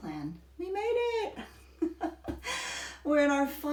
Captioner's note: laughs